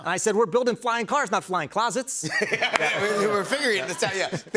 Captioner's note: laughs